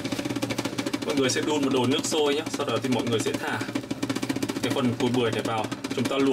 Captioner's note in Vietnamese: Cái tiếng sôi của nồi đậu xanh. Mọi người thông cảm nhé!